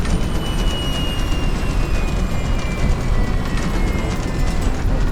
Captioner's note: plane engine roaring